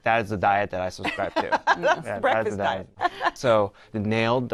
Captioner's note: laughs